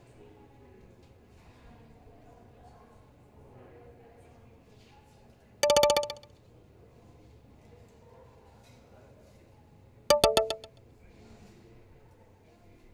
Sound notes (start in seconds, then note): 5.6 text alert; 10.1 text alert